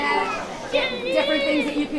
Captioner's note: children jabbering